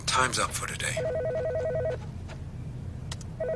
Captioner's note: telephone rings